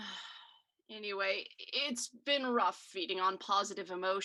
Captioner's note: sigh